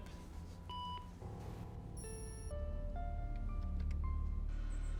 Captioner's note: electronic beeping